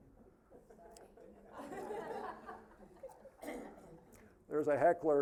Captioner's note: audience laughing